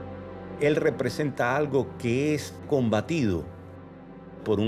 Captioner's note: speaking Spanish